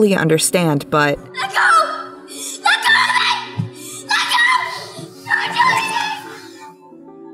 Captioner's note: Young Theo screaming